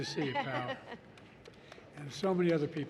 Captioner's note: applause